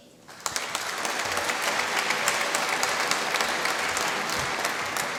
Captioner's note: applause